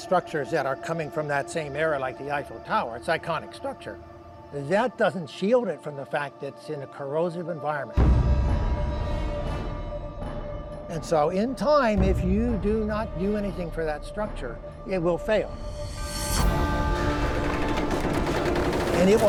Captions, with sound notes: are coming from that same area, like the Eiffel Tower. It's an iconic structure. That doesn't shield it from the fact it's in a corrosive environment. And so, in time, if you do not do anything for that structure, it will fail. [dramatic music] [creaking]